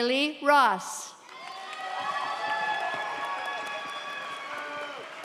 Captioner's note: audience cheers